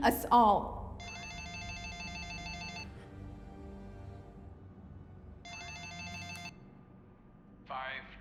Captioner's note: phone rings